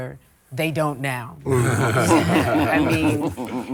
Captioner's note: all chuckle